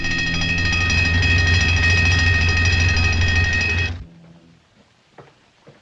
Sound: bell Ringing

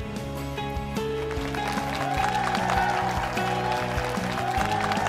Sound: audience applause

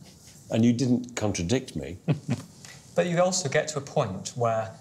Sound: chuckles

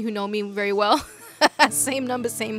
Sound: laughs

